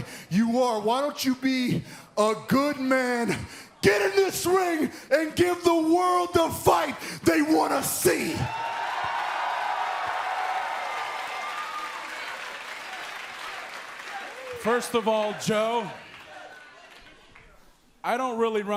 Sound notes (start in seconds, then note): 8.4 cheers and applause